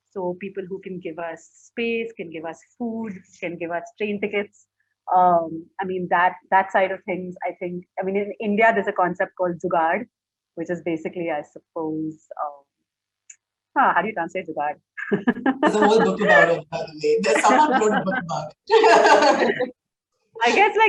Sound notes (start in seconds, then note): 15.2 laughing; 18.7 both laughing